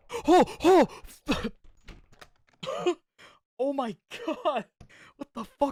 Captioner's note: cough